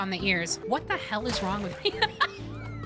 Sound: laughter

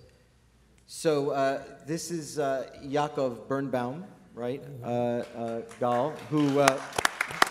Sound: applause

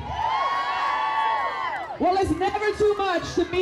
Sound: cheers

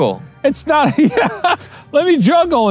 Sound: laughs

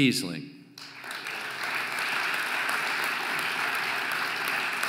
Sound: audience applauding

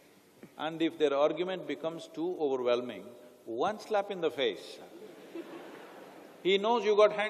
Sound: laughter

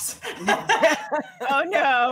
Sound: all laughing

